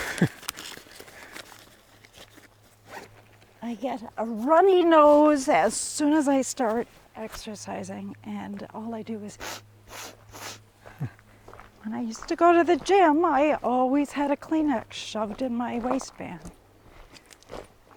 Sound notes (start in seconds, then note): 0.0 laughs; 9.8 snuffs